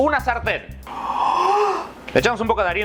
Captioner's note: gasssp!